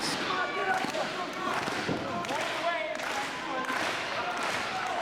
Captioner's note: crowd clapping